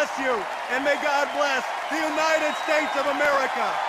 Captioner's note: cheers and applause